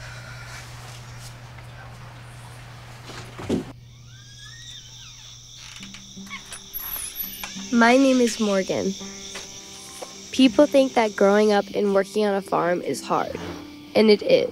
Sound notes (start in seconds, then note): 0.2 heavy sigh; 4.0 door creaking